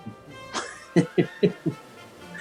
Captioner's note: chuckling